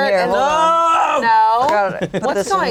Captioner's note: yells